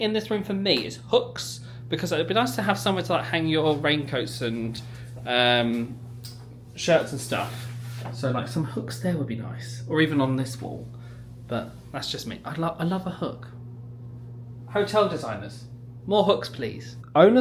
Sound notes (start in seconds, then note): none